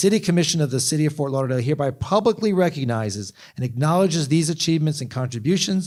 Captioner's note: none